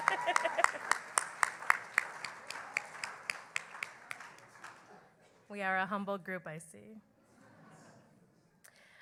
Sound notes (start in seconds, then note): 5.0 cheering and Applause